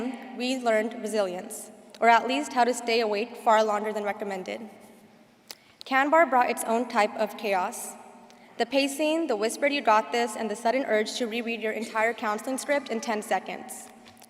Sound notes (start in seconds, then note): none